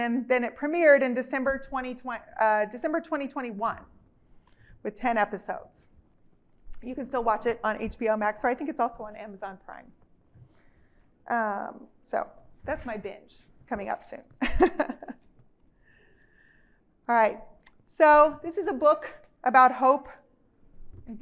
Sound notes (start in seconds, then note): 14.4 chuckles